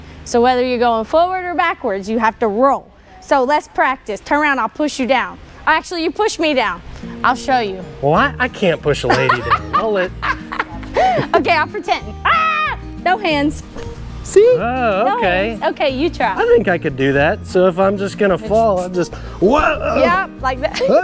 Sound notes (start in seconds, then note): 9.0 coach laughs; 12.2 screams; 20.7 laughs